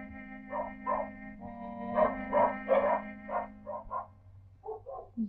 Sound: dog barks

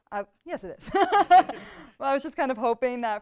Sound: laughs

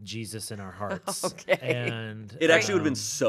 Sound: chuckling

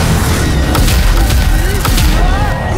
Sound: loud off-tune scream

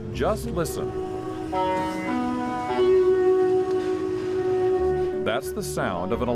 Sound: bus tones

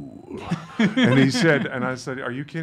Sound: laugh

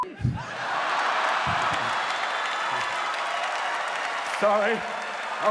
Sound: audience laughing

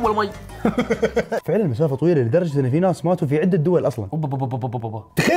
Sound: laughs

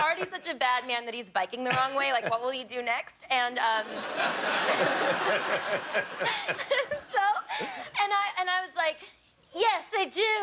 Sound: laughter

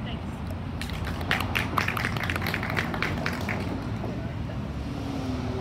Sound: audience applauds

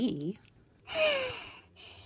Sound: sighs

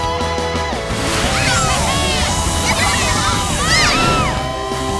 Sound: cheering

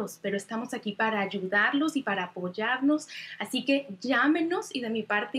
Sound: speaking Spanish

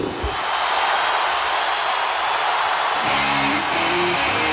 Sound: crowd cheering

